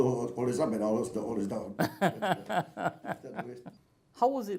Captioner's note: both laugh